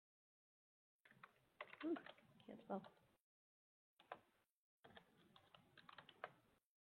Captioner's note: computer keys clicking